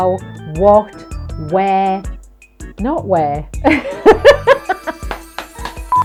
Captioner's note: laughing